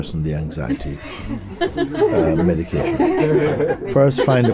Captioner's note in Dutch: gelach